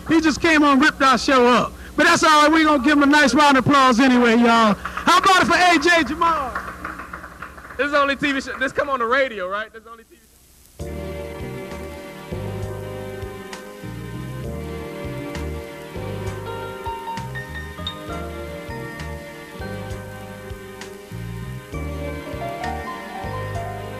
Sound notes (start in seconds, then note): 7.0 applause